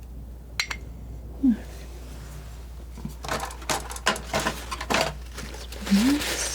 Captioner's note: scratching